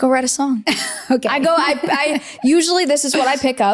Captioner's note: laughs